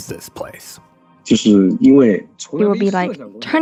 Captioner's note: speaking Mandarin Chinese